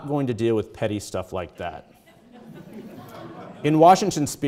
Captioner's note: audience chuckling